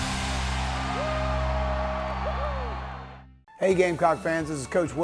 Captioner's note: crowd cheering